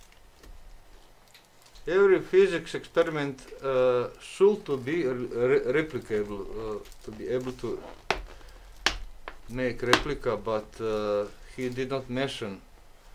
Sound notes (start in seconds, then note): none